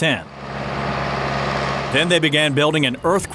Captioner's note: rumbling